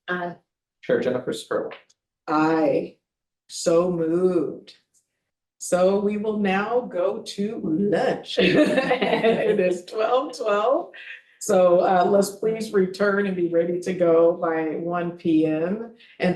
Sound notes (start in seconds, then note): 8.4 board members laughing